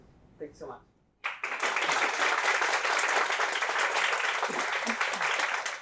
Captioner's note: applause